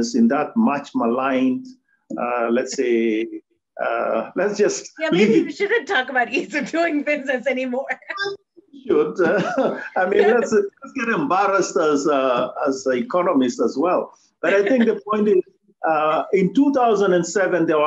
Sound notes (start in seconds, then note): 8.9 laughs